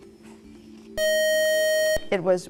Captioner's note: buzzer